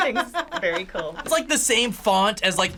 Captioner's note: laughs